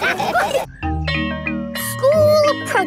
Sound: school bell rings

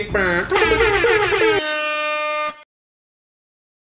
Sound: airhorn

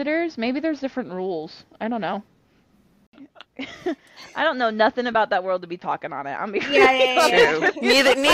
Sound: laughter

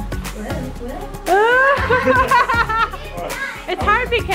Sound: laughs

